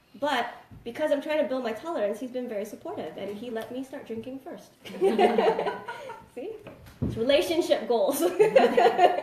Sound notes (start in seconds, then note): 5.0 laughs